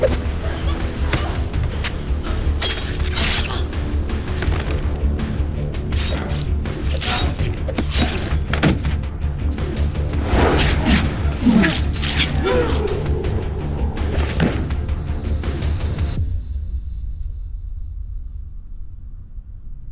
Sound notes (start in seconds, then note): 4.5 thudding; 10.1 whooshing